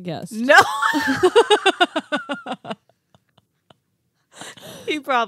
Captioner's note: laughing